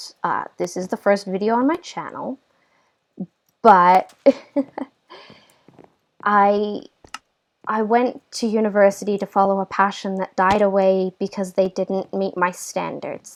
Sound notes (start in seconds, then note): 4.3 laugh